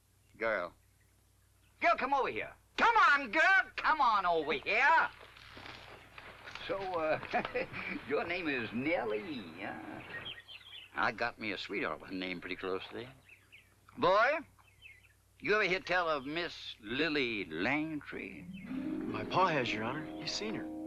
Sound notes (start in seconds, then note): 6.9 chuckles